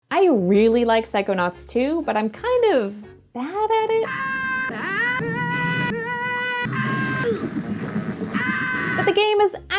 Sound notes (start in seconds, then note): 4.0 Raz screaming, and screaming, and screaming